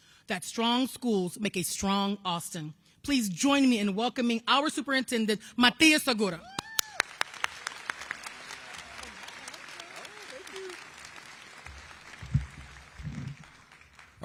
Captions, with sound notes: THAT STRONG SCHOOLS MAKE A STRONG AUSTIN. PLEASE JOIN ME IN WELCOMING OUR SUPERINTENDENT, MATIAS SEGURA! [ APPLAUSE ]